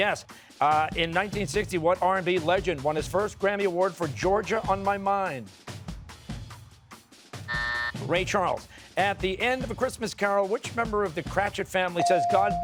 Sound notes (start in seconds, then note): 7.5 buzzer